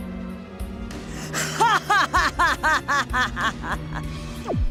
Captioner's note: evil laugh